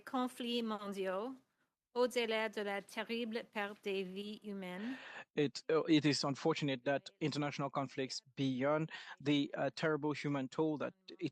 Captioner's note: speaking French